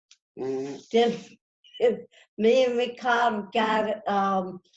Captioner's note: chuckles